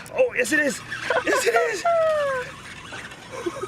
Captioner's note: laughing